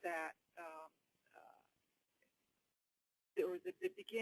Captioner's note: long pause